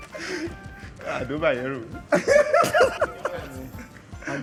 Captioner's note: laughs